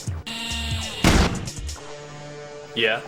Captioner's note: gunshot booming